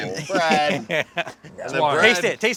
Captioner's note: everyone laughing